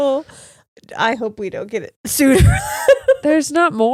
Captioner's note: laughs